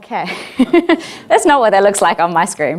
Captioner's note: laughing